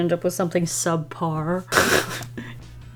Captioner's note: laughs